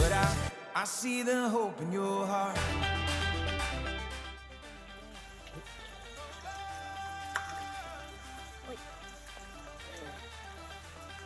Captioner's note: splash